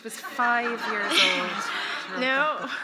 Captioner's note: audience laughing